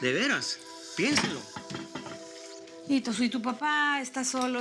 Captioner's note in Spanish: Ruidos con los platos